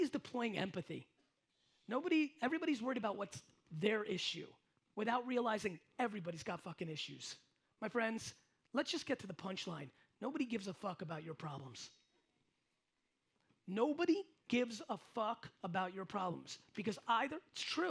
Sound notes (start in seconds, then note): none